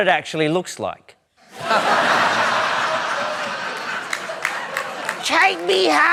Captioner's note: laughter